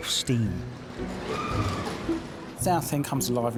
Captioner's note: rollercoaster riders shrieking